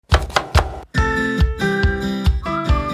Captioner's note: chopping; upbeat music